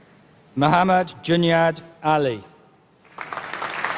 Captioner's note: applause